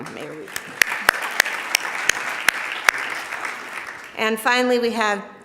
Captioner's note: audience applauding